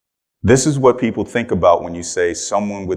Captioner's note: none